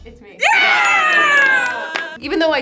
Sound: group cheers

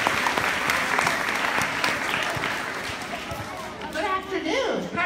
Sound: applause

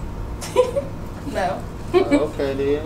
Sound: woman laughing

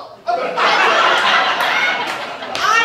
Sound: audience Laughter

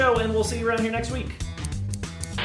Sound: snip snip snip

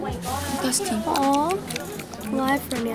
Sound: smacks lips

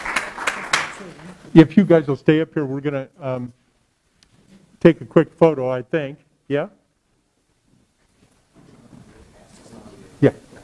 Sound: applause

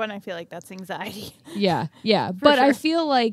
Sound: chuckles

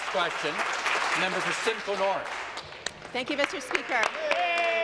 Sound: applause

